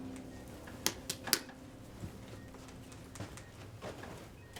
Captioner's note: remote slapping